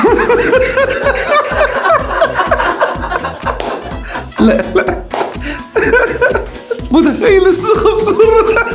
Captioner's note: laughs!